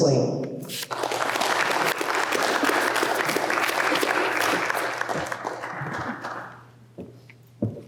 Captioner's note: clapping